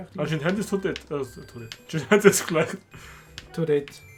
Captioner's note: laugh